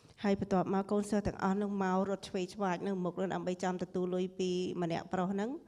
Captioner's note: speaking foreign language